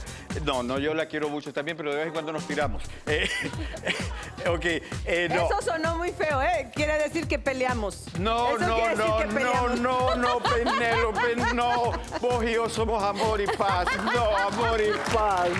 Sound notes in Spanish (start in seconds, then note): 5.9 Risas